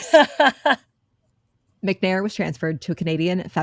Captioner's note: laughing